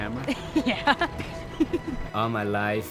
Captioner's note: laughs